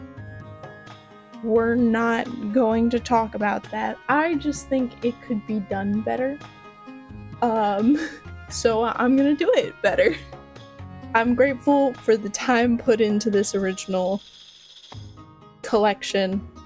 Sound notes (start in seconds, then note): 7.2 laughter; 10.1 laughter